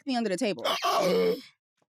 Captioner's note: gasps